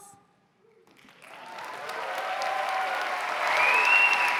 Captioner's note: cheers and applause